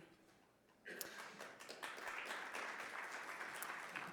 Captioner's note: audience clapping